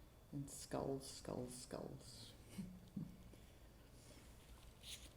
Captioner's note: chuckles